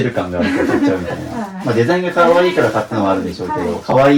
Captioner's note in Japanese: 笑い